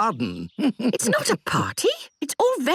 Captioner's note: chuckles